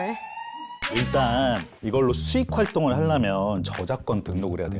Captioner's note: giving him a pass sound effect